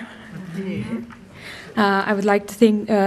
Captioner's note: murmuring replies